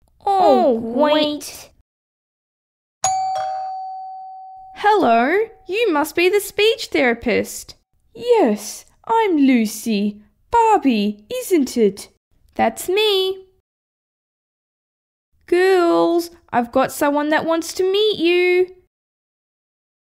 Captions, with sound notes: Oh great! (Doorbell) Hello, you must be the speech therapist Yes, I'm Lucy Barbie, isn’t it? That's me! Girls! I've got someone that wants to meet you...